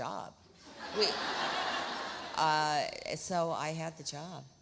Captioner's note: audience laughs